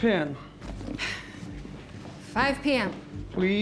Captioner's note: rebecca sighs